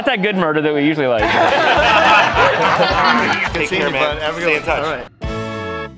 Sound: laughter

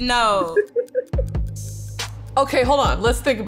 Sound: laughs

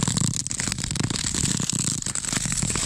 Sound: skating sounds

